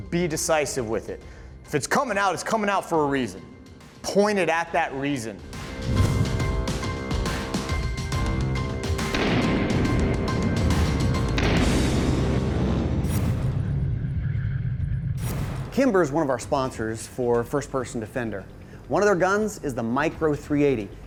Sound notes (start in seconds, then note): 9.1 gun blasting